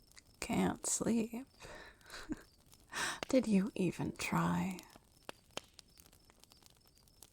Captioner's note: chuckles